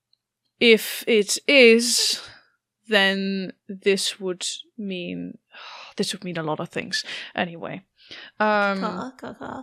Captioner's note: sighs